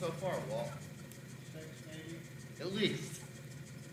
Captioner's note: faintly speaking